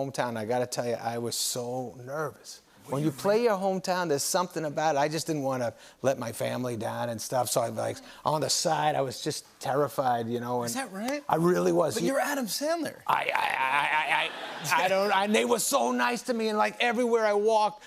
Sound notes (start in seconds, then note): 13.6 laughter